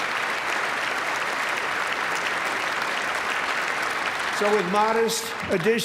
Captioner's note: applause